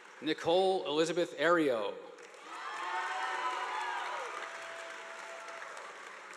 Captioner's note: audience applauding